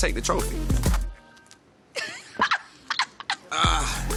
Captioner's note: laughs